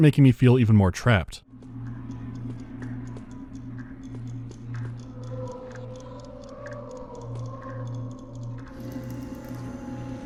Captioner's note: ticking of a clock; electric crackling and deranged wheezing